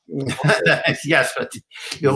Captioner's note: laughs